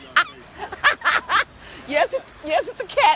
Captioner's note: laughs